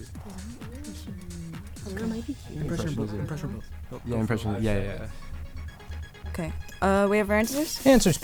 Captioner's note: wispering